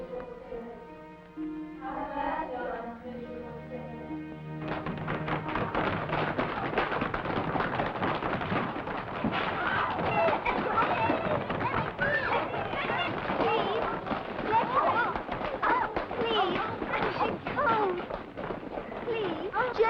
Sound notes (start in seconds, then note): 4.7 feet pounding; 10.2 children whimpering; 10.2 feet pounding